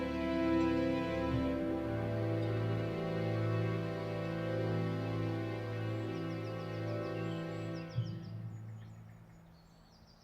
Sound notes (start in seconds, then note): 6.3 birds singing